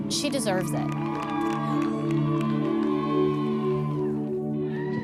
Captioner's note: cheering and applause